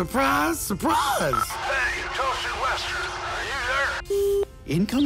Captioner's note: Admiral Marshal Hambone on radio speaker